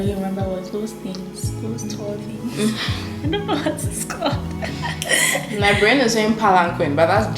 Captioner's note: both giggle